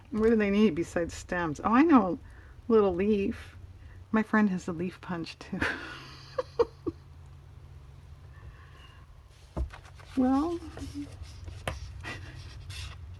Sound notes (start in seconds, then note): 10.4 laughs